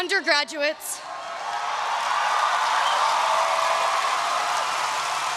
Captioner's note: audience cheering